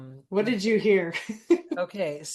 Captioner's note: laughs